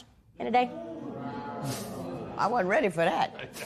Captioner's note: spectators murmur